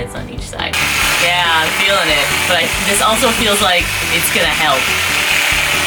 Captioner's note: whirrrr